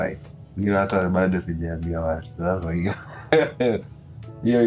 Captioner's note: laughing